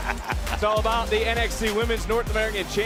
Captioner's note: laughs